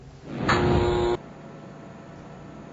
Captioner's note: buzzing sound